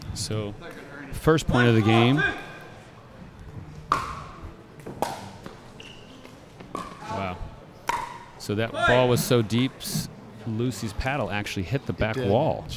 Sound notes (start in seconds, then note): 3.8 ball bouncing